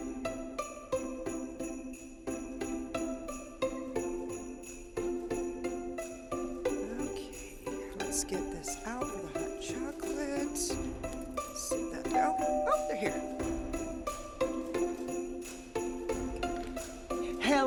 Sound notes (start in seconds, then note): 0.1 bright Christmas music; 12.2 doorbell ringing; 14.9 bright Christmas music